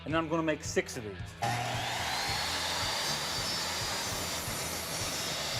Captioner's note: saw sounds